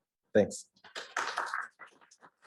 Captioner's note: claps